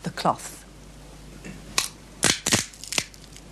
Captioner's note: cracks